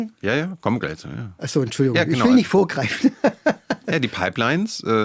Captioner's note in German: gelächter